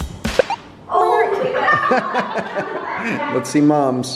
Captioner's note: family laughs